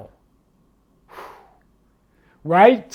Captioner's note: exhales